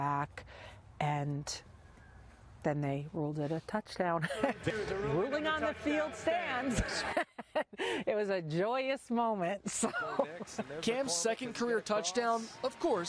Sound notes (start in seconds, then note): 6.6 laugh; 7.1 football broadcast